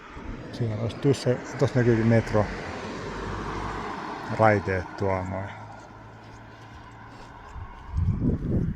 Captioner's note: train tracks